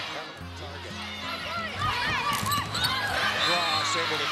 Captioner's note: crowd cheers